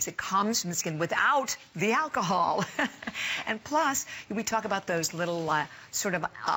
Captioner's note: laughter